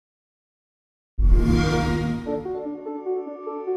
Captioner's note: xbox sound